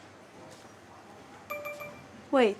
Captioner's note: beep: Error